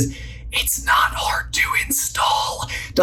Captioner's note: whispering